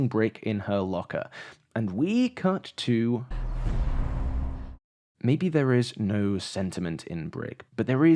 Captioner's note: thump sound